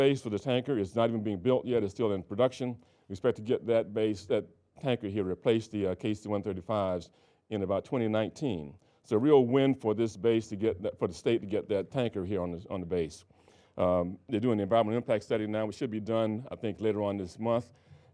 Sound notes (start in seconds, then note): none